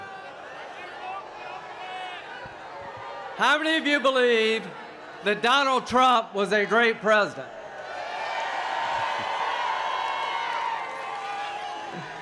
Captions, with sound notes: that Donald Trump was a great president? [cheers and applause] So let me tell you a little bit about me and President Trump.